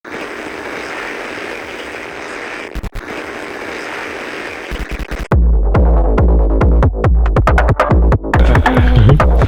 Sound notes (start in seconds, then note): 0.0 TV static playing; 5.7 upbeat electronic music